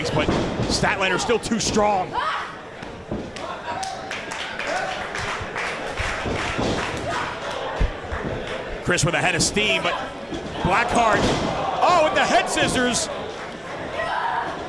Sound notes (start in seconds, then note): 3.8 applause